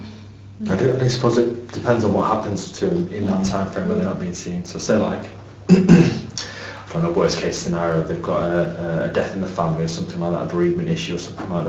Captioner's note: cough